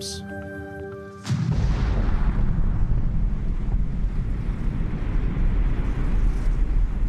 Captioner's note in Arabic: الانفجار